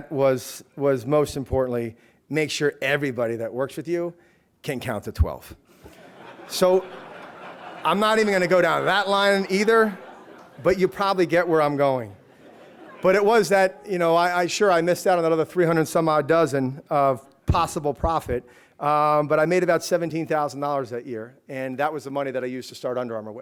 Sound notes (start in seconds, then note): 5.8 laughter